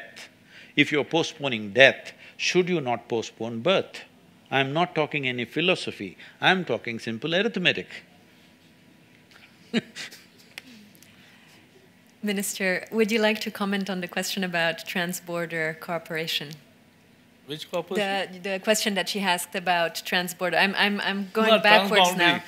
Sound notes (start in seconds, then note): 9.3 laughs